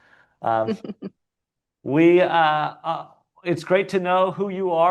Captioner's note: laughing